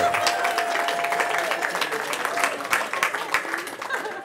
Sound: cheering

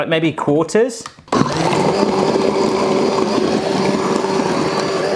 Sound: food processor whirs

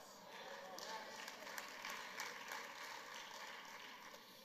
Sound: congregation clapping

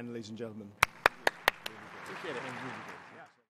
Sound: audience applauds

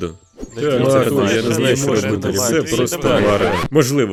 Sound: the crowd begins to make a hopeless noise

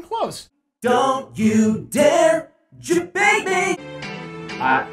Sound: autotuned

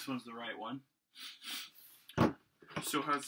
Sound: snorts aggressively

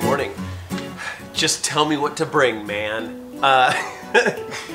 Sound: laughs

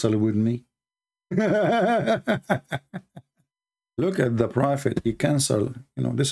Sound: Ketawa

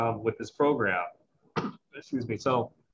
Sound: coughs

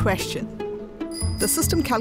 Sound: bicycle bell chiming

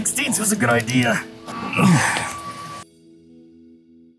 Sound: grunting

